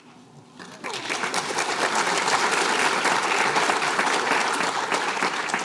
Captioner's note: applause